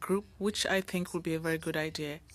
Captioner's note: speaking French